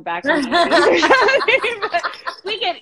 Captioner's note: both laughing